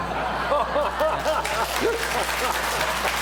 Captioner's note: laughter; applause